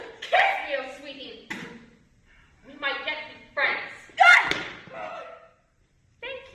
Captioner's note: cassandra screams